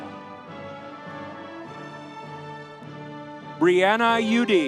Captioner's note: audience cheering